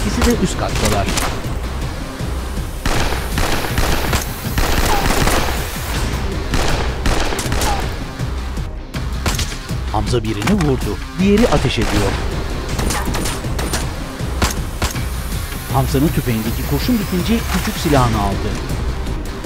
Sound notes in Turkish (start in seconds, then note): 0.1 Müzik - Aksiyon; 0.1 Silah sesleri